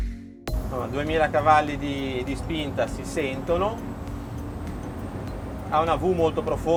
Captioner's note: speaking in foreign language